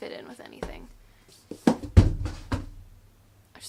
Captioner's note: drops books